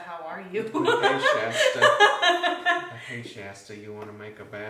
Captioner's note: laughing